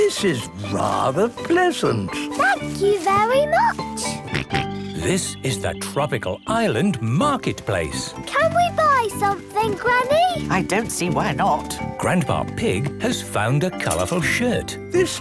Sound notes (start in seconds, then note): 4.0 George snorts